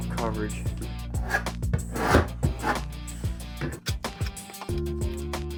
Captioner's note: tool scraping; gentle music